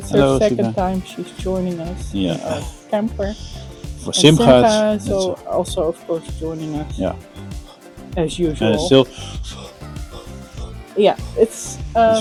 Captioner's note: exhale to make a cloud